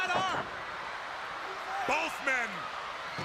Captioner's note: crowd chatter